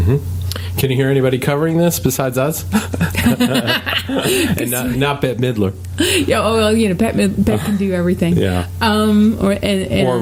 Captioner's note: laughing